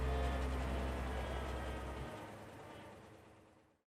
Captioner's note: engine whirring